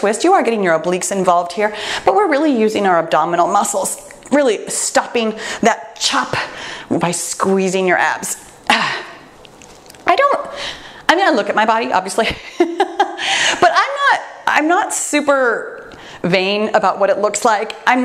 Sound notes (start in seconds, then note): 12.9 laughs